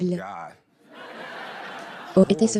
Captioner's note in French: des rires